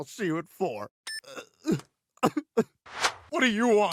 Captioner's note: cell phone beeps; Dr. Hartman sobs